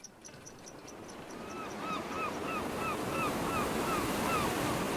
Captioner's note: birds squawking